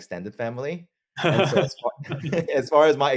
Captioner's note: laugh